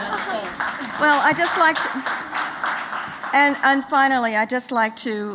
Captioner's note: applause